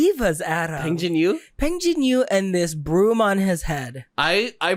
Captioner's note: excitedly